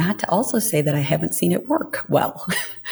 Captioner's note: laughs